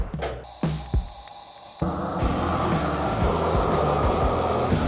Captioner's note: flame whooshes